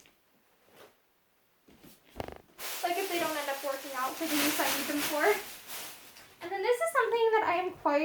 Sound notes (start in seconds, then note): 2.1 plastic bag rustling